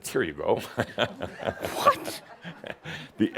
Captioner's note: chuckles